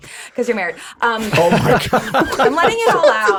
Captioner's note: all laughing